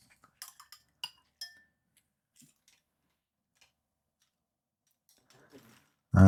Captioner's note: silence